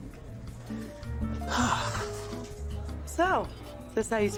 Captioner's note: sighs